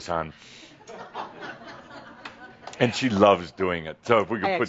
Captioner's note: some chuckles